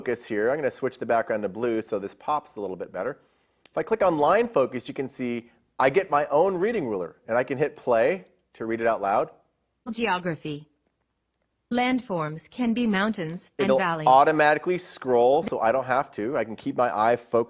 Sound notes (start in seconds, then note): 9.7 Immersive Reader Voice